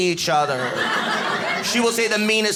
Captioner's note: audience laughing